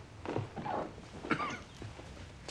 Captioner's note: coughs